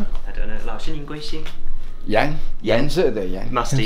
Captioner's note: speaks Chinese